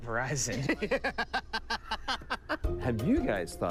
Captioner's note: laughs